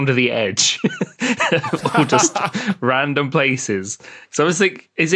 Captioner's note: group laughing